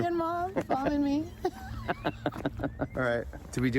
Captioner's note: both laugh